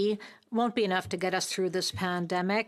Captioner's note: speaking french